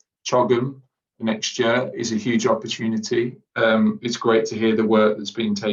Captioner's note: distorted audio